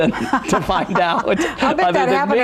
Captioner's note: laughs